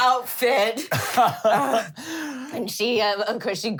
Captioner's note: laughing